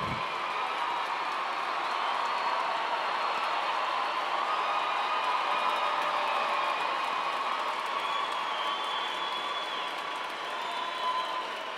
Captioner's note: cheers and applause